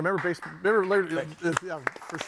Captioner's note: audience applauding